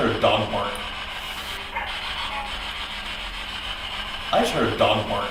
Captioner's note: static buzzing